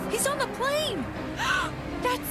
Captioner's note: gasp